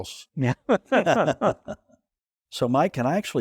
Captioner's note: they laugh